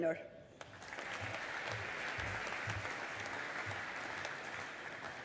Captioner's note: audience applauding